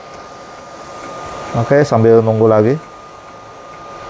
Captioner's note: printer machine noise